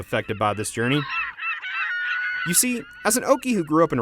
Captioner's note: seagulls calling